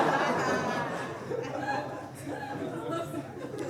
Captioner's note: audience laughing